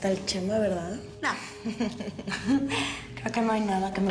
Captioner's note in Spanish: Risas